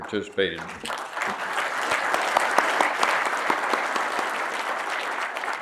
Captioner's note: audience applauding